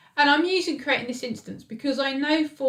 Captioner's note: none